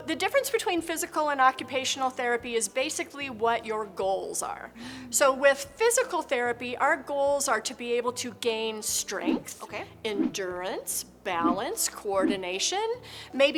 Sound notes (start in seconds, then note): 9.8 transition whooshes